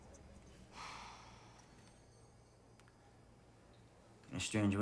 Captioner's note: Kelly sighs